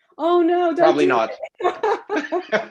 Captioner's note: laughs